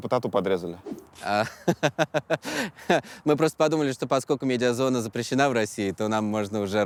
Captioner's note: laughs